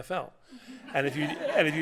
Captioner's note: laughter